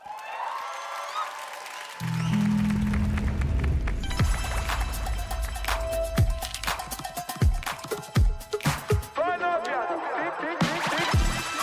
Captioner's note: cheers and Applause